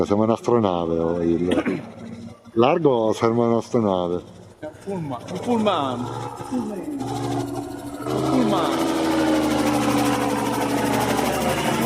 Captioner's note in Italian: schiarire la voce